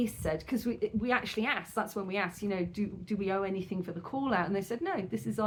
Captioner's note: none